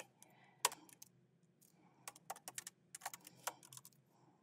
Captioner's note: keyboard clacking